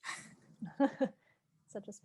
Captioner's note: laughing